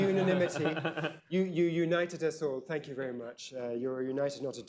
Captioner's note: laughter